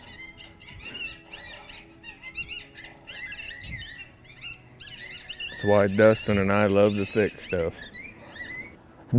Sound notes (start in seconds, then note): 0.3 calm music; 2.1 animal calls